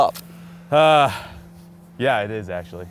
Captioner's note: sighs